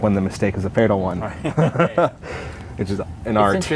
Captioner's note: laughter